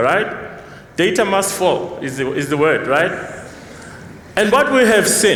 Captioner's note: non-english